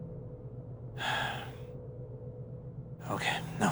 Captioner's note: sighs